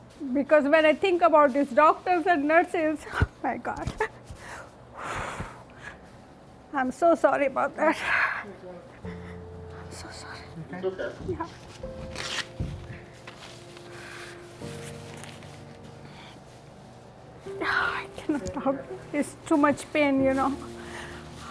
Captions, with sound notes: Because when I think about this doctors and nurses, Oh my God (sighs heavily) I'm so sorry about that. (sighs heavily) (soft uplifting music) No, I cannot talk it's too much pain, you know,